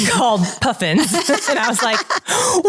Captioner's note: laughing